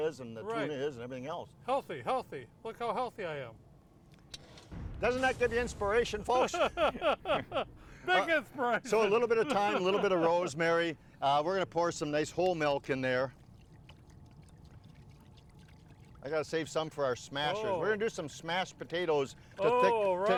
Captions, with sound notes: and the tuna is and everything else. - Healthy. Healthy. Look how healthy I am. (dramatic whooshing) - Doesn't that give you inspiration folks? (all laughing) - Big inspiration. (laughing) - So a little bit of thyme, a little bit of rosemary. We're gonna pour some nice whole milk in there. I gotta save some for our smashers. - Oh! - We're gonna do some smashed potatoes to thicken-